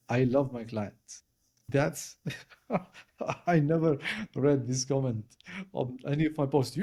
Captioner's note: laugh